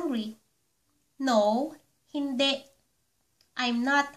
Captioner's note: Hindi